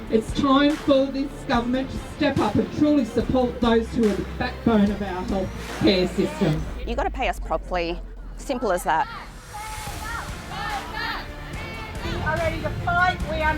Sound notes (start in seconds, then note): 8.4 protestors chanting